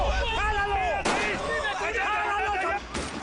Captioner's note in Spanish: Disparos